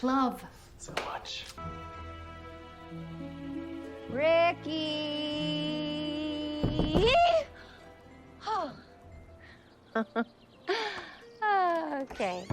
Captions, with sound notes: -So much. -Yeah. Ricky-y-y-y? [sighs] [laughs] OkOkay.